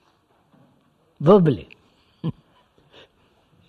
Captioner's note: laughs